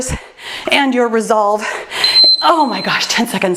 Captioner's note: timer beeps